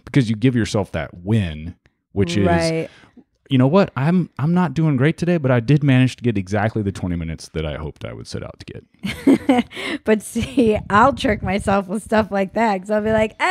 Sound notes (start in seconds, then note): 9.0 laughing